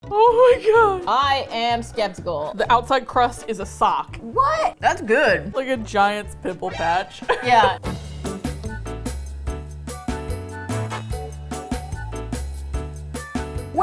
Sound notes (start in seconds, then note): 6.8 laughs; 7.9 upbeat music